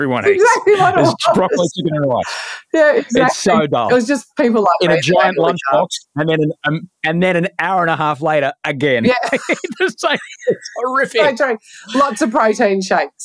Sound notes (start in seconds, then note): 8.9 laughing